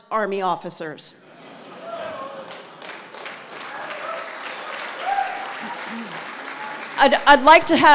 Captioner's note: laugh; applause